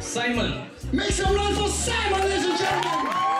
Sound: crowd cheering

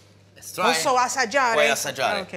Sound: italian

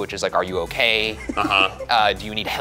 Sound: chuckles

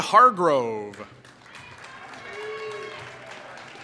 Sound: applause

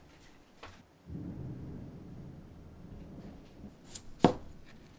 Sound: thunder lightning

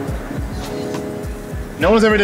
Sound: stomach growl

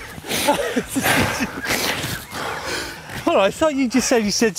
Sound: laughs

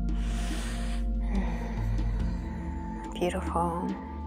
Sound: exhaling

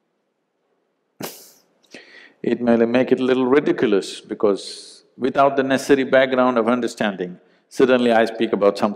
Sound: laughs

